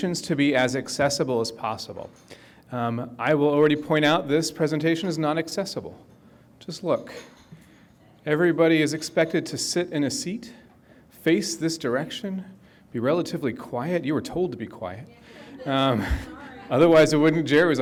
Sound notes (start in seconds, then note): 15.4 audience chuckles